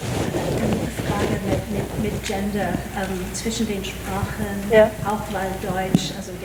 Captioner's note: panelists speaking in foreign language